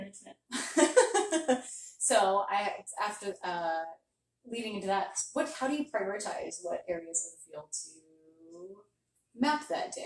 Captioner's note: laughter